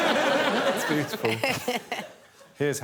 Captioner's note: audience laughing; chuckling